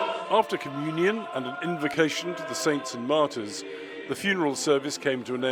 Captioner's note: voice-over